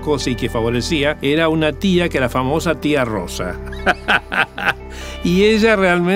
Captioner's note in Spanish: risas